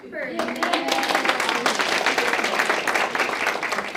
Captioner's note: audience clapping